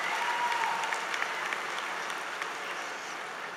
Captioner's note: applause